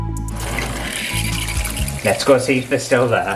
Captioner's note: water Squirting